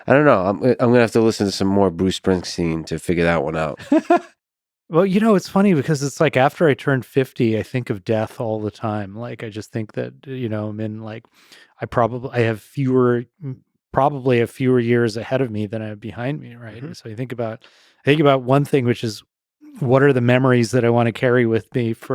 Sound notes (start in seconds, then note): 3.6 laughing